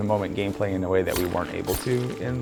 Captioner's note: blade slicing